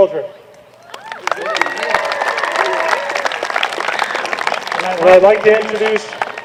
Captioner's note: applause